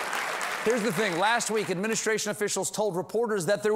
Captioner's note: cheers and applause